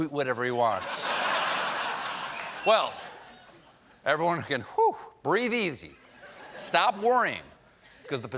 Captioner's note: laughter